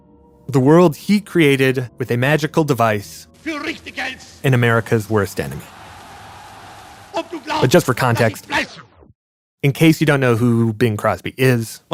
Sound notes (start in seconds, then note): 4.0 speaking in German